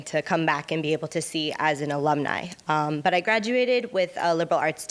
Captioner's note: none